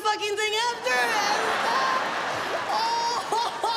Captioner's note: audience laughs; comedian imitates laughter